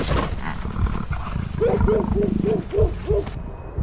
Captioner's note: growling